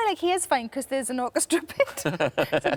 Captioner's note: laughs; Tom laughs